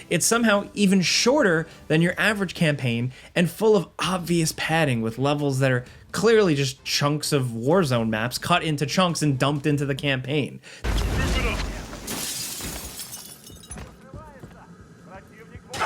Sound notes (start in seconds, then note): 10.9 glass smashing; 13.7 soldiers speaking in foreign language